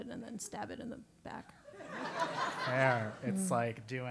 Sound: laugh

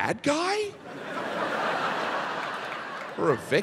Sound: audience laughing

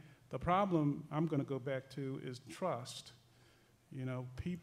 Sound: none

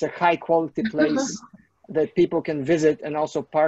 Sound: laughs

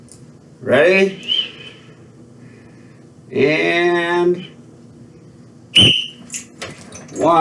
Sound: blows whistle

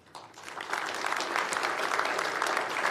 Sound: applause

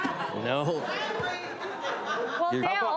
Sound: chuckles; audience chuckles

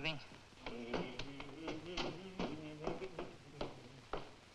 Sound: Duke humming

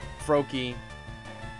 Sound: none

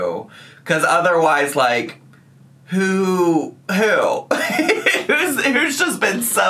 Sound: laughs

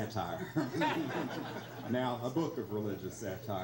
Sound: laughs

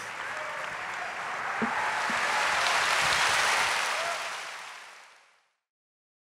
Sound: audience cheers and applauds

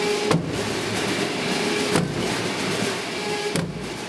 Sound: kicking

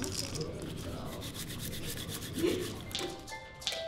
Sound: crackling of seeds; rubbing of dried leaves

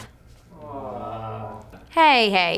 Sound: groan

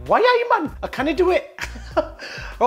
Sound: laughs

